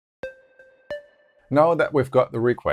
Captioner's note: notes sound